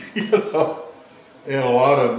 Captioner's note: laughs